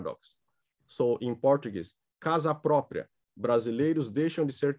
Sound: speaking portuguese

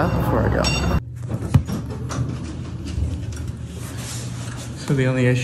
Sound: elevator doors open

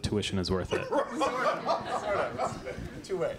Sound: laughter

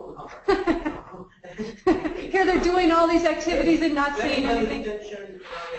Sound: laughs

